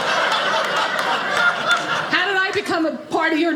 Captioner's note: audience laughing